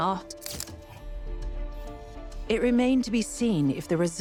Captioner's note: camera clicking